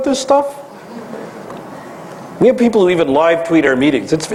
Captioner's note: laugh